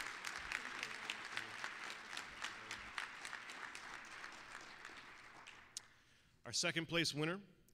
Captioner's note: applause